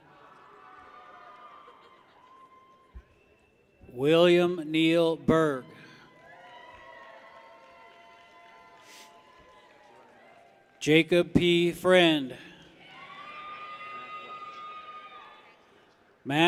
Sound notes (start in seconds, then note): 0.5 people cheer; 6.1 people cheer; 13.2 people cheer